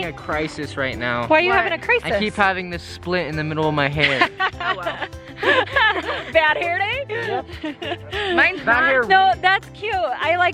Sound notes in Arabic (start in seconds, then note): 4.0 يضحك